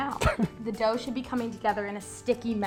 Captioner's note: laughs